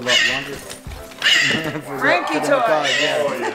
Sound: bird squawking loudly; chuckles softly

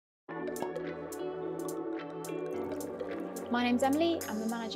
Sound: cork popping; mellow music

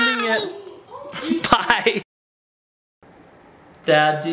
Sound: laughs

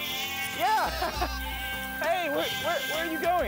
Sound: sheep bleating

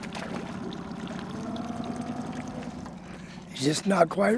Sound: fish splashing

